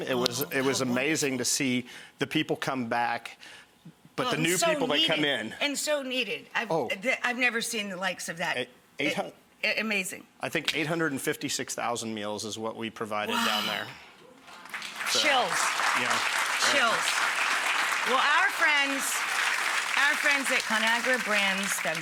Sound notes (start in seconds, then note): 16.9 applauding